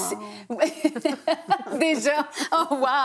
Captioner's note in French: rires